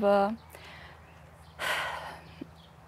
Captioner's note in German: Seufzen